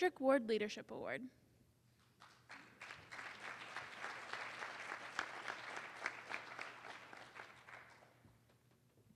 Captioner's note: applause